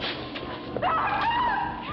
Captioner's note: screaming